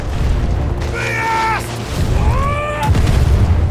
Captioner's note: urla